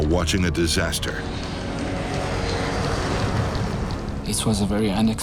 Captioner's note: plane engine roars